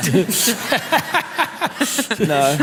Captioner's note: laughter